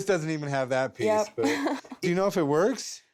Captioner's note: chuckles